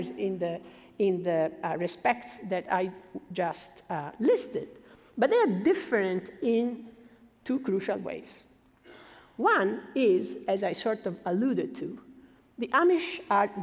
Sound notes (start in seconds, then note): none